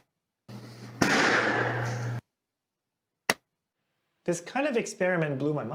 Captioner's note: balloon pops